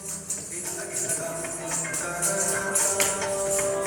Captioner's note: coins jingling